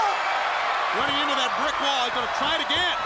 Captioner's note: crowd cheering